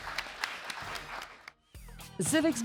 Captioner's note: audience and teams applaud